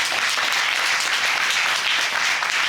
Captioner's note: audience applauding